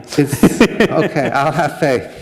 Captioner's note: laughter